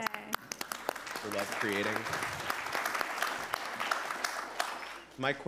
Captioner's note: attendees clapping